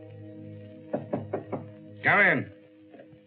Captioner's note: knock on door